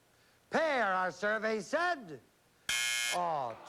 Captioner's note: buzzer